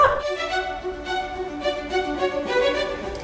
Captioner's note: laughs; enchanting music